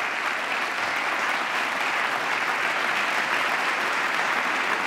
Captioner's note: applause